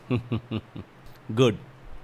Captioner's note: laughs